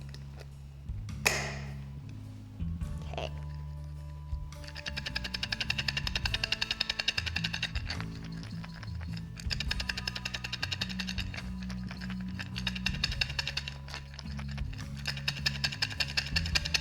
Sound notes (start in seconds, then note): 1.2 lid snapping; 4.8 mixture tapping